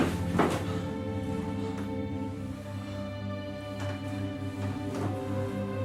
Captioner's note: panting and sighing